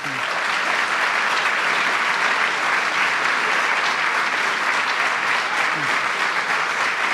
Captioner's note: applause